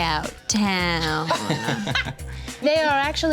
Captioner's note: everyone laughs